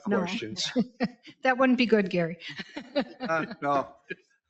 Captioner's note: laughing